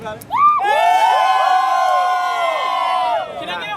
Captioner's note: group cheering